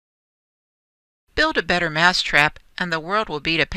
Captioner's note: voiceover